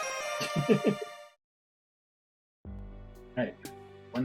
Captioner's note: friendship fanfare; chuckles